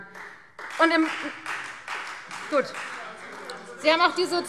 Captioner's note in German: Beifall Freie Demokraten